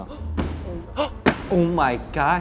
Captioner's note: slamming the desk loudly